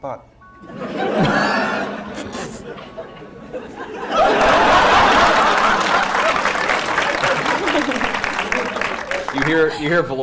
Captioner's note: laughter